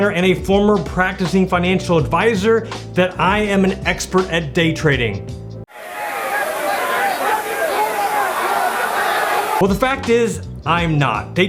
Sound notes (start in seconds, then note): 5.7 crowd yelling